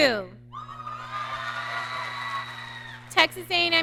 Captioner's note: audience cheering